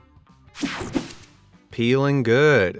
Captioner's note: whooshing sound